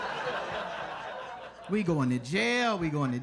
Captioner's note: audience laughs